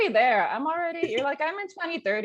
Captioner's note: laughing